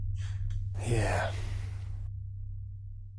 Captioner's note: mutters